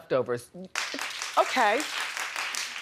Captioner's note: audience clapping